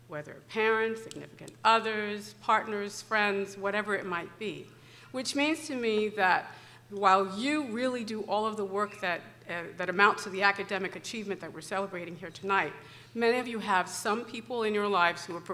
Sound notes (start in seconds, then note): none